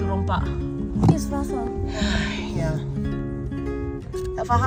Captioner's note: speaking German; sigh